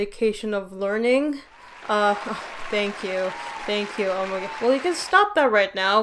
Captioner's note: applause